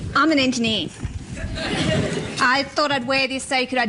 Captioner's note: laughter